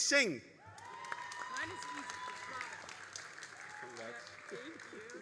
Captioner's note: all applauding and cheering